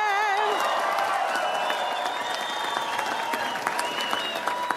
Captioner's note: audience applauds